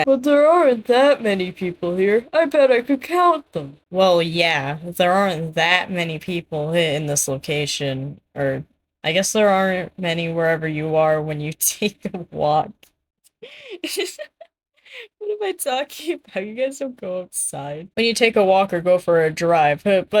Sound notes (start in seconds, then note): 13.4 stifled laughter; 13.5 laughter